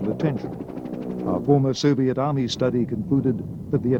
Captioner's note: helicopter whirring